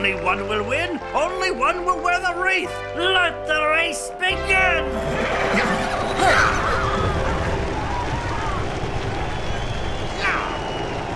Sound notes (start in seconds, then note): 4.9 whinnying; 5.0 cheering